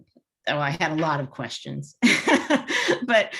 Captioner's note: laughs